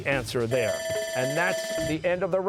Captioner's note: bell ringing